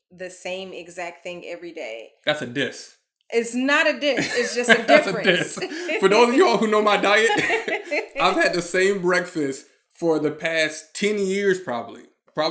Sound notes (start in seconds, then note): 4.0 laughing